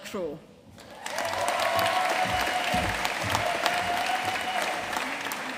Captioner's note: audience cheering and applauding